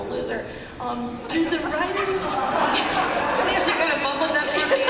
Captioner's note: laughter